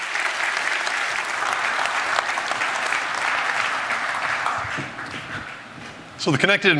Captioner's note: applause